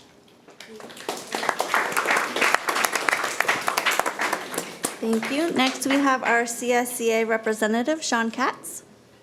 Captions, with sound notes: (audience applauding) - Thank you. Next, we have our CSEA representative, Sean Katz.